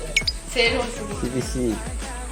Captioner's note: laughs